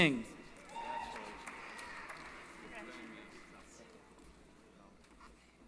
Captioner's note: applause